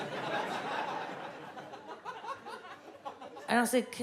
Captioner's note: audience laughs